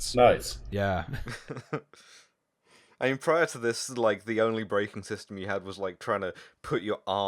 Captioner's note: laughter